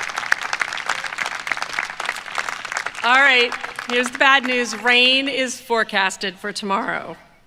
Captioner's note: applause